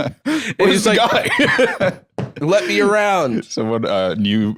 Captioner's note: stomps foot